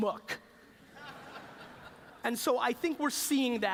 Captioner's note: laughter